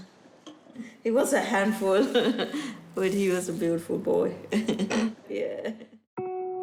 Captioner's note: chuckles